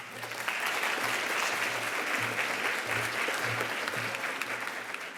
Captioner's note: audience applauds